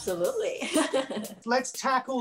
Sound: laughing

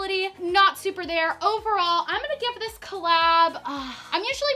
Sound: sighing

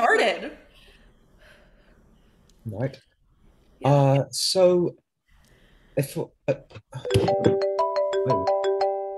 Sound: cell phone ringing

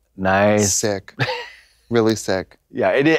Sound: Katya snickers

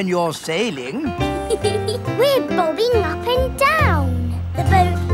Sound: giggles

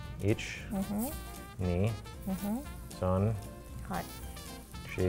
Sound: speaks in foreign language

